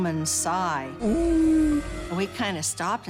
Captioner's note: moaning